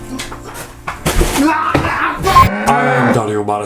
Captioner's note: thump and scream